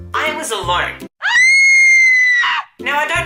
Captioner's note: woman screams